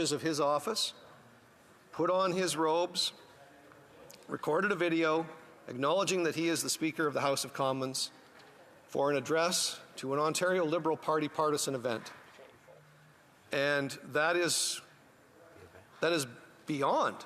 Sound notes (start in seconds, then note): none